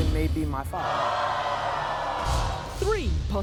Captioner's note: crowd jeering